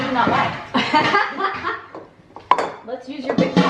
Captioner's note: laughs